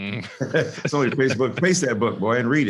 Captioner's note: both laughing